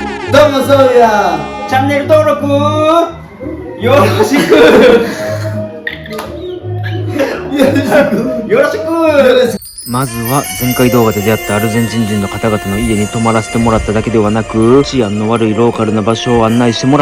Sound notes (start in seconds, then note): 3.9 laugh